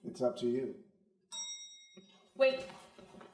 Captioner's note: elevator dings